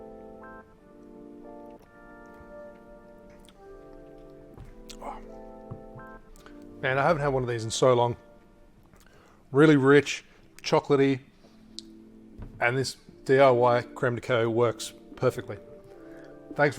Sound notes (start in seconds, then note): 0.2 gentle music; 4.8 sighs